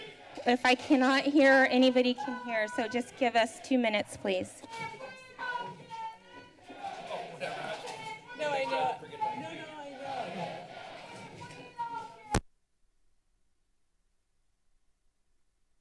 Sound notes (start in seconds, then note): 5.1 protester shouting